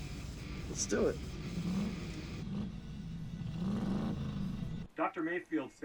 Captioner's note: loud engine acceleration